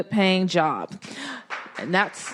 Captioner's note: applause